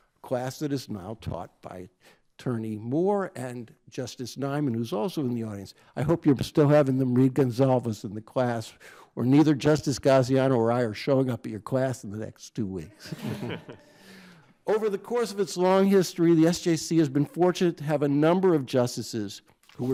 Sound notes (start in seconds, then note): 13.0 crowd chuckles